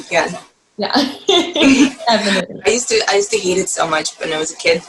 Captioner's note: laugh